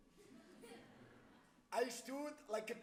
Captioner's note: audience laughs